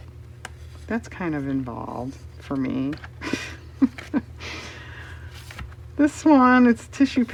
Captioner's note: laughs